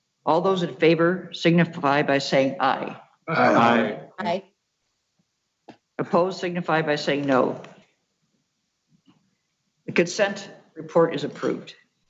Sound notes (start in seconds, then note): 3.2 multiple Voices